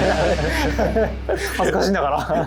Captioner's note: haha